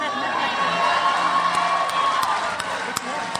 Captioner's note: crowd cheers